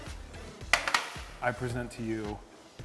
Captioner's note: tray clattering